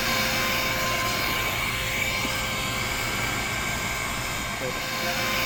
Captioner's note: inflator Sound